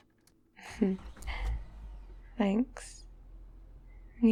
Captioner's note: starts car